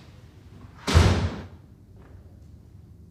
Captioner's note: door slams